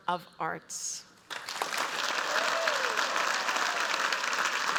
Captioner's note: applause